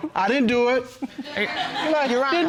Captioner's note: audience laughing